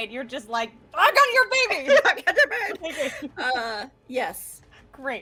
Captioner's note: laughing